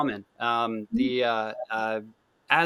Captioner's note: speaks faintly